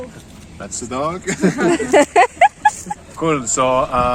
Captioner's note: laughing